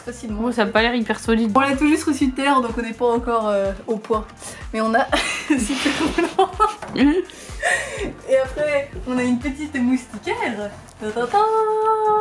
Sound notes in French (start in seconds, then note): 5.1 Rires